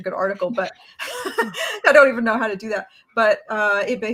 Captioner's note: laughs